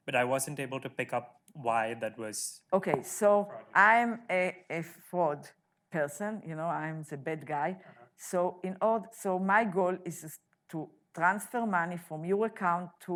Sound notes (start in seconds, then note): none